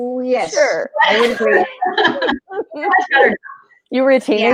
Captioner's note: laughing